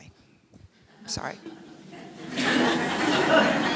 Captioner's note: laughing